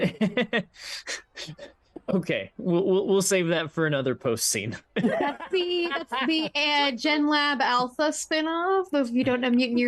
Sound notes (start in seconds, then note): 0.4 laughs; 5.0 everyone laughs